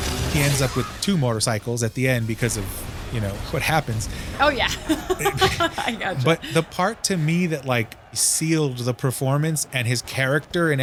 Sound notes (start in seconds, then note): 4.4 laughs